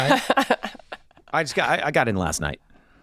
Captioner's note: laughing